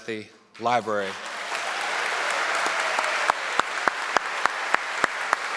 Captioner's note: audience clapping